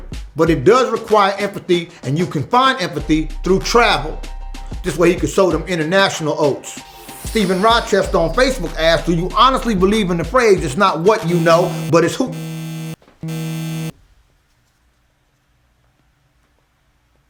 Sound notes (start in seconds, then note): 13.2 buzzing